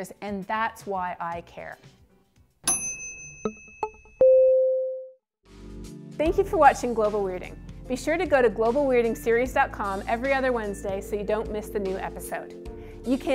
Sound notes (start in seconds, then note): 2.6 dinging